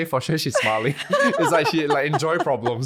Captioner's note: laughing